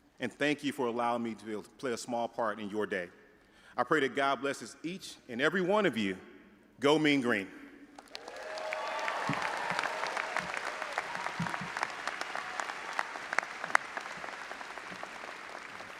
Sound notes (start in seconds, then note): 8.0 audience applauding and cheering